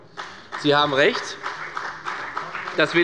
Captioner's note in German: Beifall bei der FDP und bei Abgeordneten der CDU